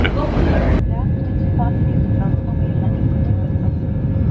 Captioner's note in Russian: звук самолета